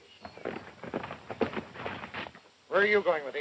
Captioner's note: galloping hooves